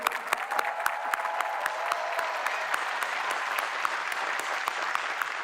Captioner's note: applause